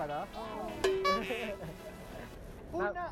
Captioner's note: laughs